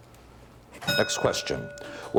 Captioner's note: bell ringing